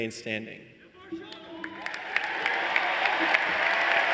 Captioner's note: applause